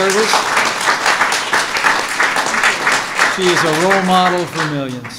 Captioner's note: applause